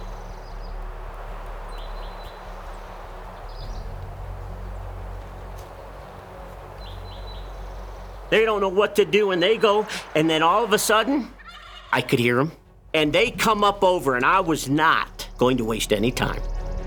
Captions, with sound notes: They don't know what to do. And they go, and then all of a sudden- [TURKEYS GOBBLING] I could hear them. And they come up over, and I was not going to waste any time.